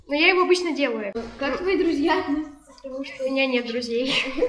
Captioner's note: starts laughing